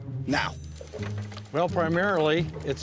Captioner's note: bell rings